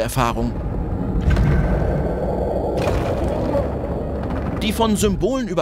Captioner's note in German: Mechanische Geräusche, ferne fauchende Geräusche